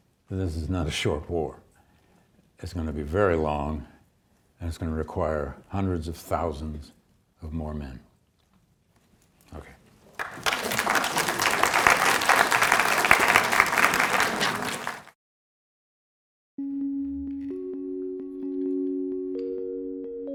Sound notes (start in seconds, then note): 10.2 audience applauding; 16.6 soft music